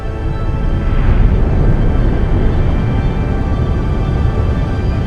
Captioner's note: volcano rumbling